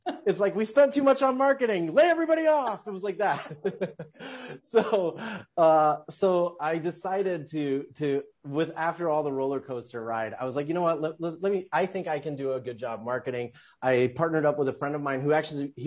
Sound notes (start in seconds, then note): 3.2 laughs